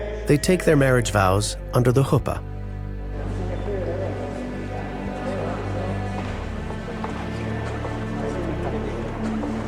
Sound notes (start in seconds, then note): 2.8 congregation chattering; 2.8 gentle music continues